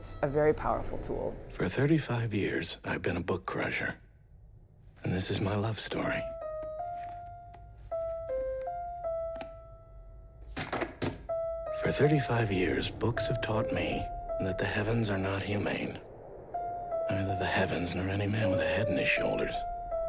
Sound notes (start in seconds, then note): 9.6 piano music; 12.1 thump